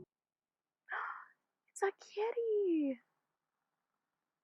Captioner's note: gasp